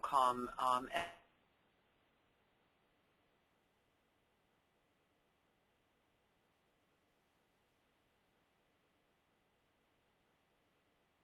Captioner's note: break in recording